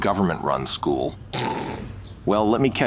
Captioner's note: chortles